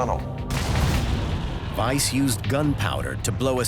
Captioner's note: explosion